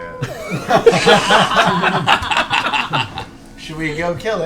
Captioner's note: laughter